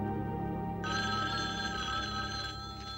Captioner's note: phone ringing